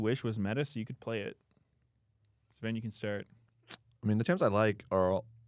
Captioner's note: smacks lips